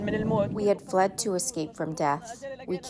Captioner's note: through translator